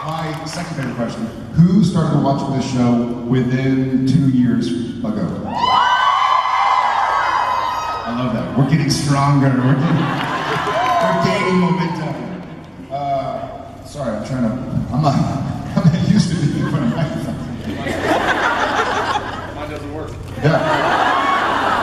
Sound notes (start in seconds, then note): 15.4 crowd laughs